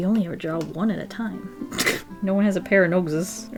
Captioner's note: laughs